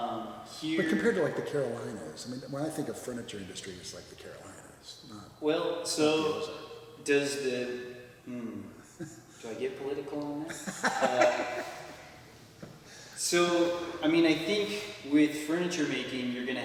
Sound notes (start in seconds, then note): 10.5 laughs